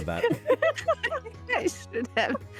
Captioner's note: laughs